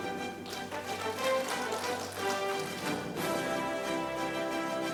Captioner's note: audience applauding